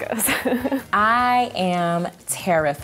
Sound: laughs

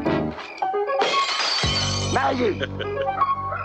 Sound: glass shatters; chuckles

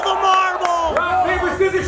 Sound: audience cheering

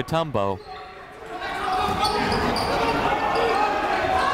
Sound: chatter

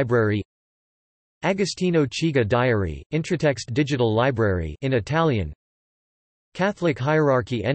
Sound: in Italian

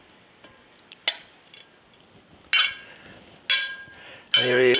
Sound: spoon clinking

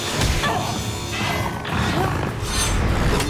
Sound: grunting; snarling

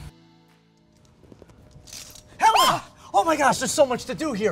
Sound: screams

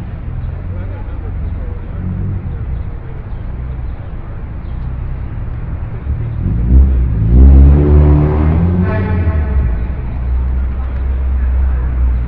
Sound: traffic ambience

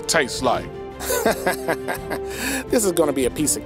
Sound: Steve laughs

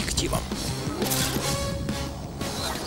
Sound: shutter sound

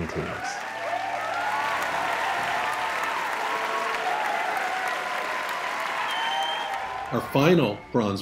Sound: applause

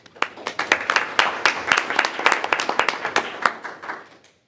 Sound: group applauding

